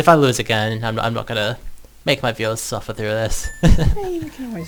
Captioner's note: laughs